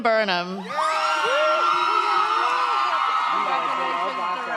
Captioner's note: audience cheers